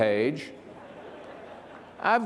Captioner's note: participants laughs